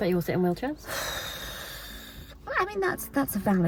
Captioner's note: sighs